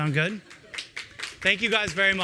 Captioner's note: applause